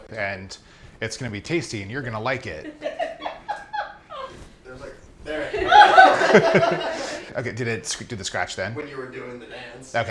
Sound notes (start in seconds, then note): 3.0 people laughing